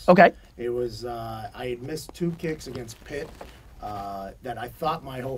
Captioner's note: pat